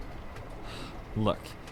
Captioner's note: Henry sighs